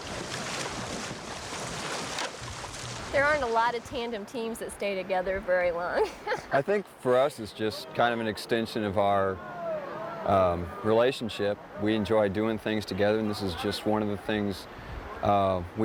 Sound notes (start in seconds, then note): 0.0 water rushing; 5.9 woman laughs